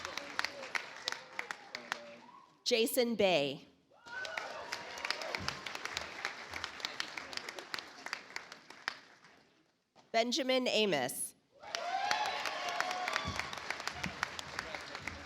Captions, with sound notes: Jason Bai. (audience applauds) Benjamin Amos. (audience applauds)